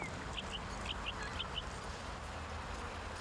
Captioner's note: birds chirping